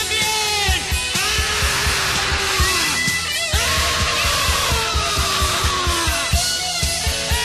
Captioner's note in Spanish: gritos